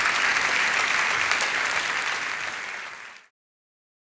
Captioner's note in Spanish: Aplausos